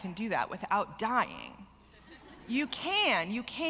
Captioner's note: laughter